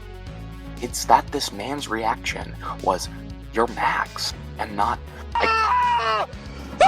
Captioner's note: horrified screams